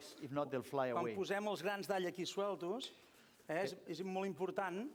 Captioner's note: non-english speech